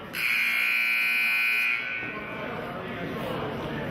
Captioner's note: buzzer honks